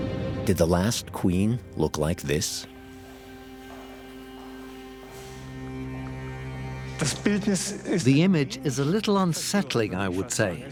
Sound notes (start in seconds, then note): 5.9 speaking German